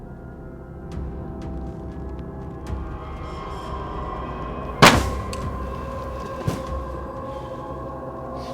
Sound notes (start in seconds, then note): 4.8 gun fires